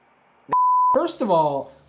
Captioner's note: beep